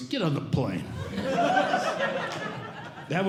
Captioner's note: audience Laughing